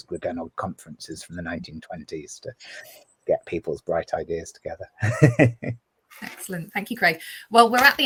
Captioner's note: laughs